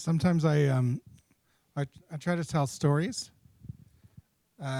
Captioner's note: voiceover